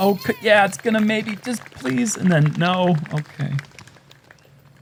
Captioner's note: applause